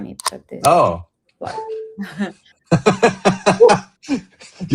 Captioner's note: laughter